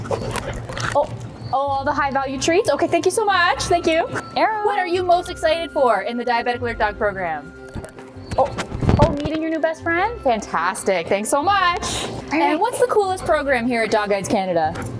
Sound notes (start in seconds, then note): 0.2 mic rustles; 8.3 rustling and sniffing